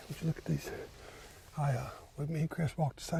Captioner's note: fabric rustling